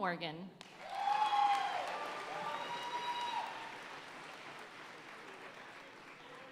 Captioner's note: audience cheering and applauding